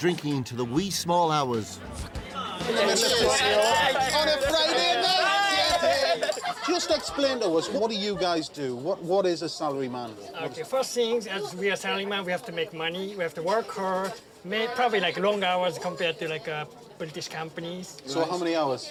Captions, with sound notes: and are known for drinking into the wee small hours. -Cheers on a Friday night! -[cheering] [laughter] Just explain to us. What do you guys do? What is a salaryman? Okay, first things, as we are salaryman, we have to make money, we have to work hard, probably, like, long hours compared to, like, uh, British companies.